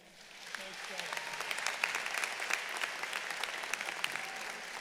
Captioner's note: audience applauding